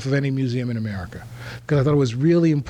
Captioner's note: none